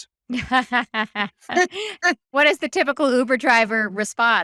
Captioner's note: laughing